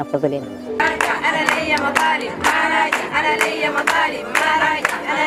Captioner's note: chanting & appluading